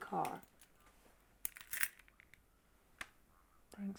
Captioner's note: keys jingling